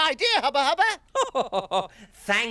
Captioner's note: laughing